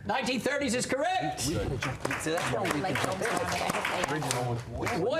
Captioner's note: applause